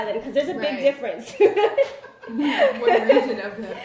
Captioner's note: laughter